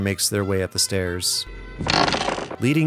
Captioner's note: creak